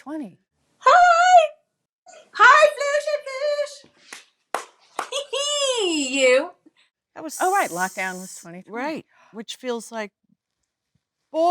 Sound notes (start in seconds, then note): 4.5 hands clapping; 5.4 Lisa laughing